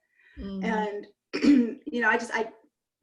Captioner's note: clears throat